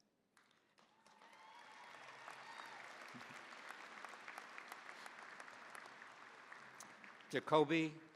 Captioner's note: cheering, applause